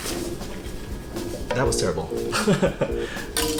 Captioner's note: giggle